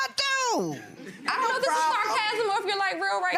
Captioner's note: gallery laughs